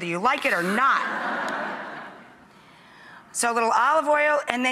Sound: audience laughs

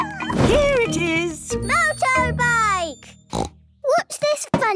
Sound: snort

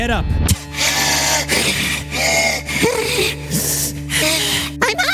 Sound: gasps for air

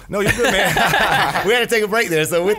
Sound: scattered laughs

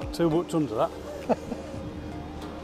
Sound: chuckles

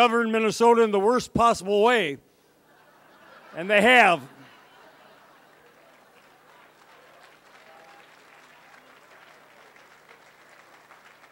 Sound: laughter; applause

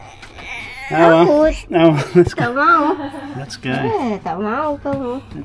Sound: laughing

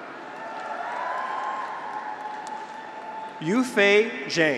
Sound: graduates cheer

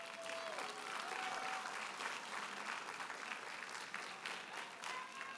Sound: audience cheers and applauds

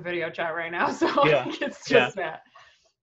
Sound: laughing

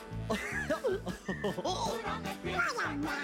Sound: laughs

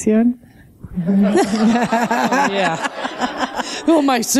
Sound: laughter

